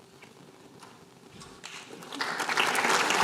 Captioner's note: applause